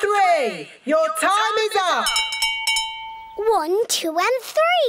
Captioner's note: rings bell